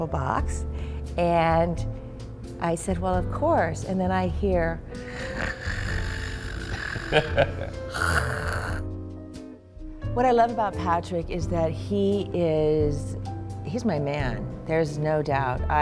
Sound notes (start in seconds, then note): 5.2 sound of snore